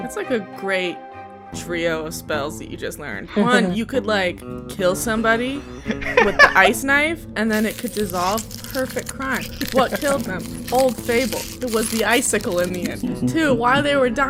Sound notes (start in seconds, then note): 5.8 laughter; 12.5 laughter